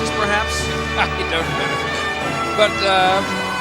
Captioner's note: chuckling